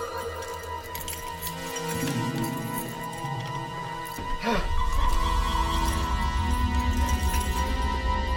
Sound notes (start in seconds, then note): 0.0 keys rattling; 4.4 grunting